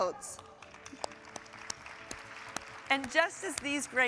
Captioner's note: audience applauding